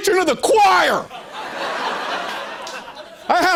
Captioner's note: laughter